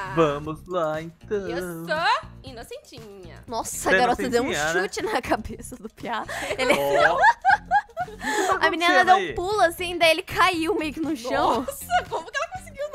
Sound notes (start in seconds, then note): 6.4 laughing; 6.4 laughter